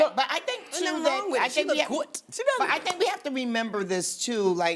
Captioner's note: stammers